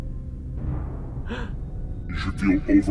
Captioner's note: gasp